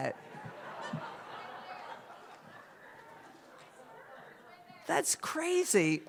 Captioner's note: laughter